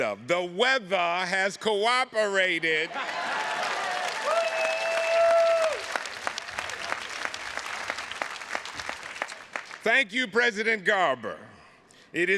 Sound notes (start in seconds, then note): 3.0 audience applauding